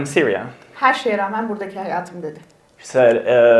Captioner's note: speaks in Turkish